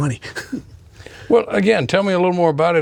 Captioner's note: chuckling